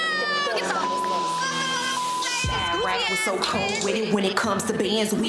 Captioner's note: beep